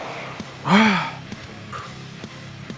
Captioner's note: exhales